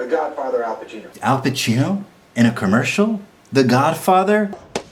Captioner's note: mockingly